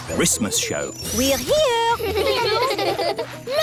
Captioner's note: children giggling